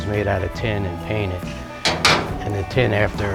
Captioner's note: clanking